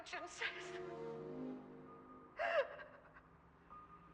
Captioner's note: crying